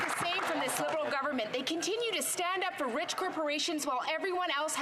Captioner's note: some Applause